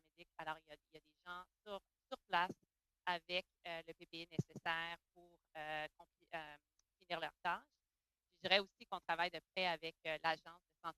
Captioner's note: speaking French